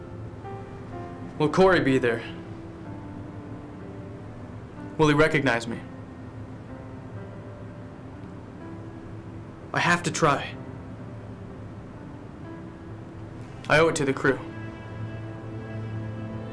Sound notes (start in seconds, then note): none